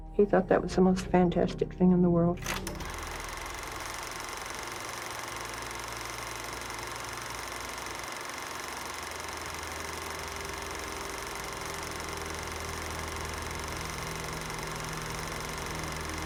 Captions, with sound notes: He thought that was the most fantastic thing in the world. (projector clicking) (dark music)